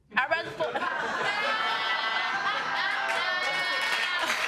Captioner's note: audience laughing